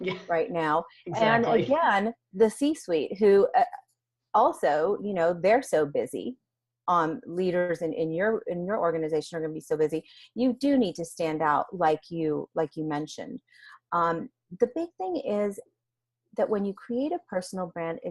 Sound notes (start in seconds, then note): 1.1 laughs